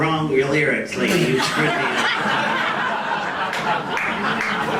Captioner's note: audience laughs